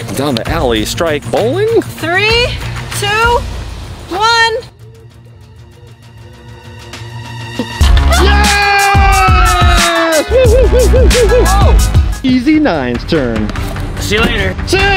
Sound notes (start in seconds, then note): 8.0 cheers loudly